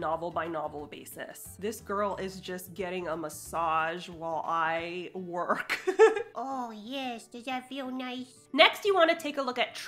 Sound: laughs

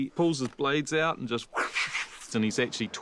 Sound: mimics whooshing

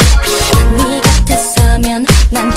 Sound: slaps

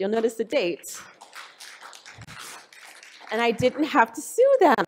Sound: audience applause

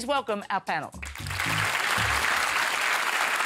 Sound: applause

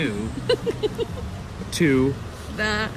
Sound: giggling

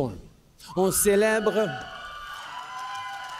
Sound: wild cheers & applause

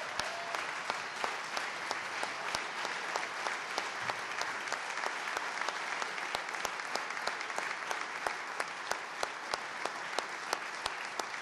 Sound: applause

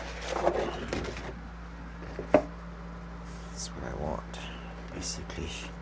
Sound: none

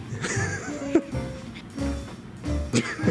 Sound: laughing

